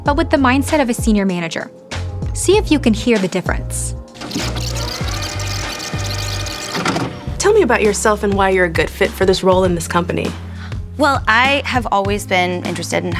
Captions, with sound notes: but with the mindset of a senior manager. See if you can hear the difference. [tape rewinding] [tape playing] - Tell me about yourself and why you're a good fit for this role in this company. - Well, I have always been interested